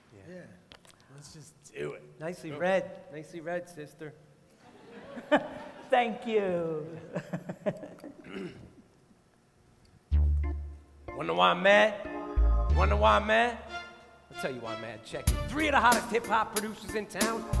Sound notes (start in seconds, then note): 4.6 laughter; 7.0 laughs; 11.8 hip-hop music